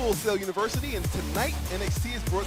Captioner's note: none